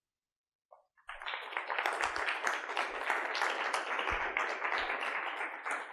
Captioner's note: audience applauding